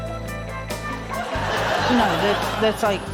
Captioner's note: laughter